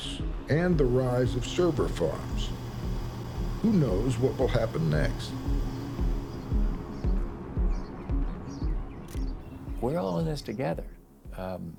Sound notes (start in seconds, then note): 7.6 birds chirp; 7.6 camera shutter clicks